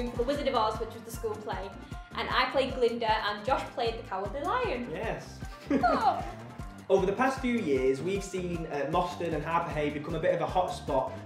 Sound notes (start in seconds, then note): 5.4 pretend cry noise